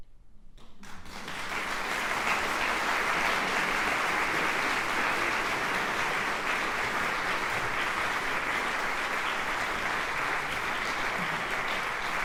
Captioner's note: applause